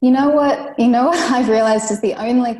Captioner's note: laughs